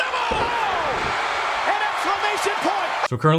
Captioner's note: cheering